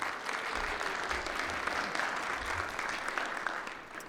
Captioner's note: audience applauds